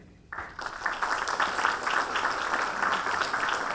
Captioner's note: applause